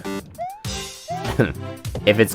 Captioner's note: laughs